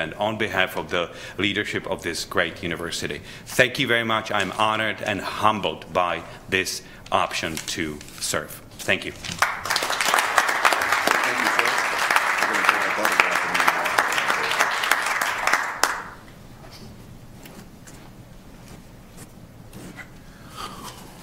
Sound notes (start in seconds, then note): 9.8 applause; 12.0 background chatter